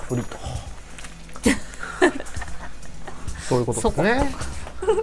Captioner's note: laughs